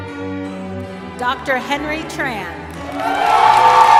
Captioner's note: cheering